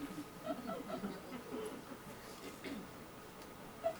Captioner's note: audience laughs